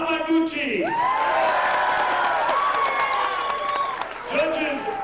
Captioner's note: applause & cheering